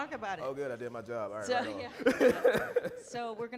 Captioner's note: chuckling